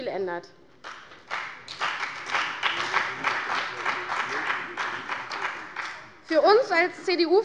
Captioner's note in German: Beifall bei der CDU und dem BÜNDNIS 90/DIE GRÜNEN